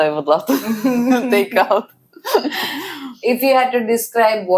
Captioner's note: laughs